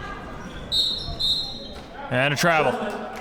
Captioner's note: whistle blows